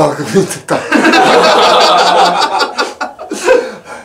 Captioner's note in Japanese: 笑い